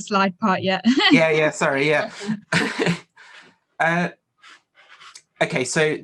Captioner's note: light laughter